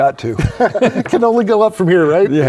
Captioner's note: both laugh